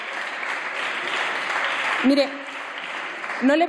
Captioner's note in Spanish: Aplausos.-Rumores